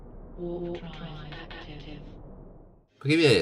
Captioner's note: old voice